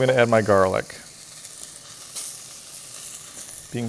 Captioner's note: pan sizzling